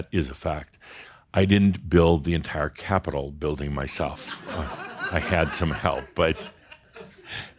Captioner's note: some chuckles